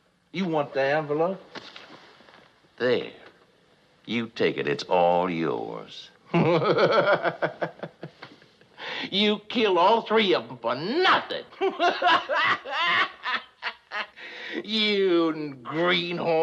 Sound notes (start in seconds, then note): 6.4 laughing; 11.4 continues laughing